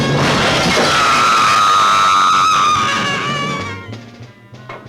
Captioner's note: screaming